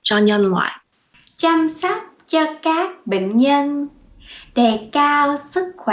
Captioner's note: speaks in foreign language